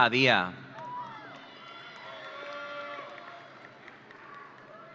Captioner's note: audience cheering